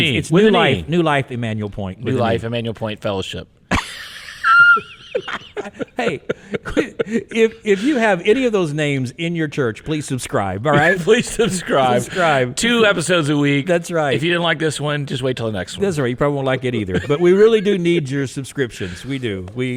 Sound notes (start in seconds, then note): 3.7 people laughing; 10.7 laughs